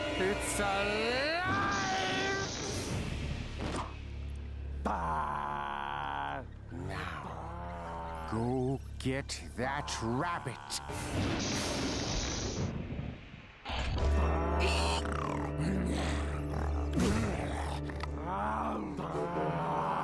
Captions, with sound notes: IT'S ALIVE! [growling] NOW, GO GET THAT RABBIT. [gasping] [growling] [growling]